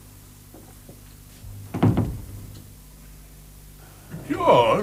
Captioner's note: door shuts